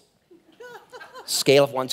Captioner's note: laughing